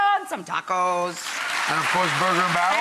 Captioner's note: audience applauds